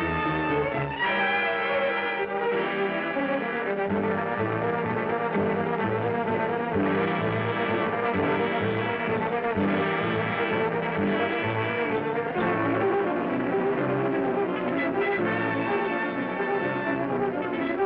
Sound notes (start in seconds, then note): none